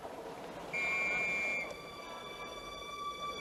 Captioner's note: police whistle